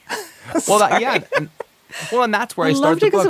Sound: laughs

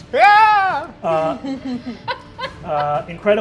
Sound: players laughing

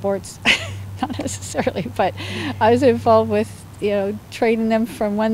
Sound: laughs

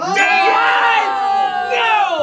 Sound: group yells

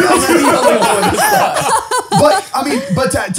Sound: all laughs; laughs

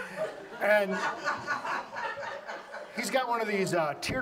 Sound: audience laughs

